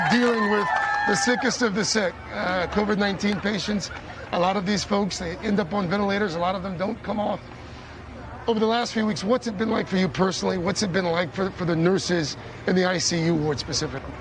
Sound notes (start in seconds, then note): 0.0 cheers and applause